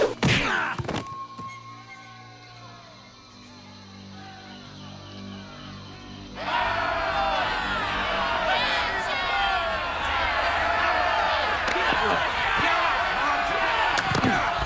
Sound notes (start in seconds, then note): 6.3 yelling and cheering